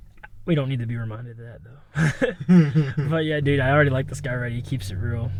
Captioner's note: laughs